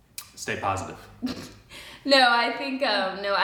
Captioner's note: chuckles